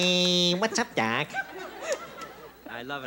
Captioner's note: laughter